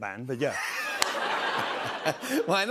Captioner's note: laughter